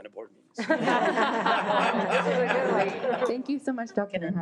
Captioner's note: audience laughing